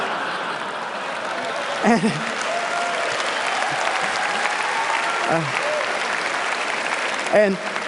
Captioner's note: laughter; applause